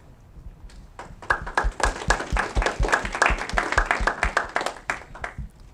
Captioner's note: audience clapping